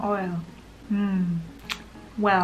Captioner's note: tongue click sound